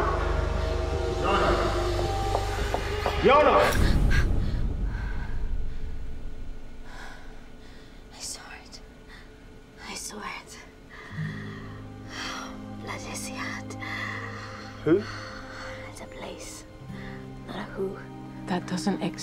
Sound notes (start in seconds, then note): 4.5 Jana gasps